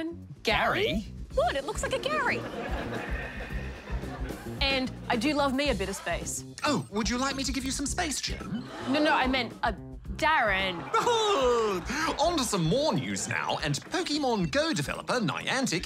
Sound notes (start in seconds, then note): 2.1 laughter; 8.3 audience gasps; 10.7 laughs